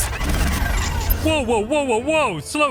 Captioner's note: mysterious interference